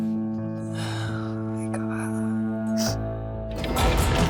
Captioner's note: sniffles; foreboding music playing